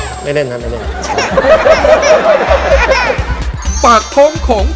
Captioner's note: laughing